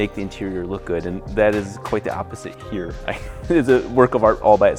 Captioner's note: laughs